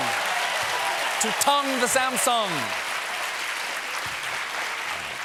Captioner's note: cheers and applause